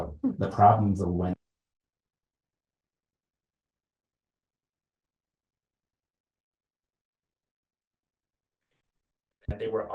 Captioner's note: audio cuts out